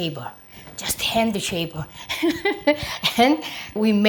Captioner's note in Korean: 웃음소리